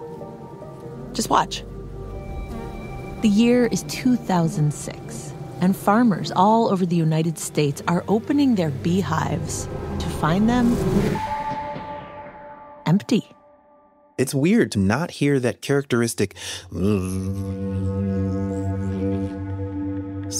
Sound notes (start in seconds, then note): 3.1 bees buzz to signal that we are going back in time; 10.7 A beat as the buzzing bees disappear